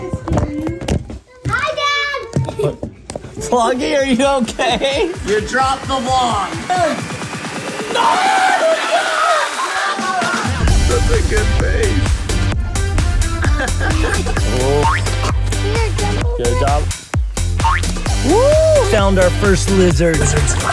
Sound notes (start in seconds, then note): 1.0 camera rustling; 6.9 upbeat electronic music begins; 7.7 laughing and screaming; 13.4 dad laughing; 14.4 spring sound; 17.6 spring sound